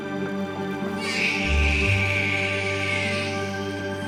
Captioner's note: baby crying